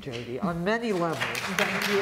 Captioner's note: applause